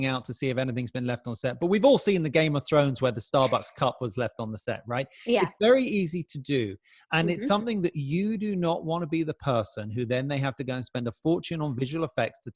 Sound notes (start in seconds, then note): 3.4 chuckles